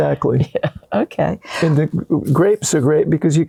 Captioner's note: laughter